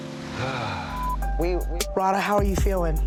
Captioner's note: sighs